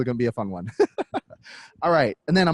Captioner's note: laughs